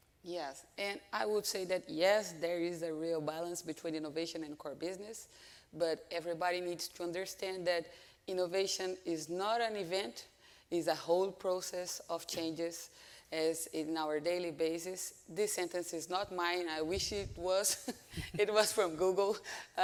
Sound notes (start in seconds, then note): 17.9 chuckles